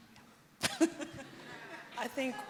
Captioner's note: laughs